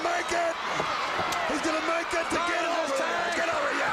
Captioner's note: crowd cheering